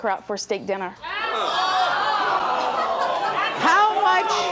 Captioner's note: audience jeering